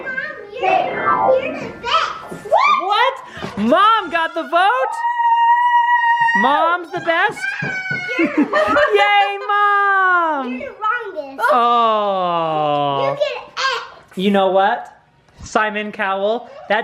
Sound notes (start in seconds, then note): 5.5 yelling